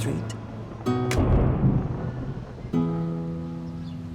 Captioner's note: thunder